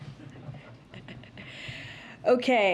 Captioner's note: laughs